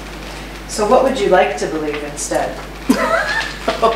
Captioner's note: laughs